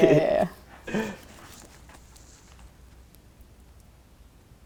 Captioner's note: he laughs